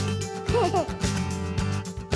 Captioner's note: laughing